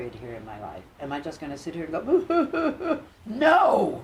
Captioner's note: imitates crying